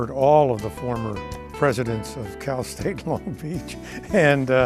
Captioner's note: chuckles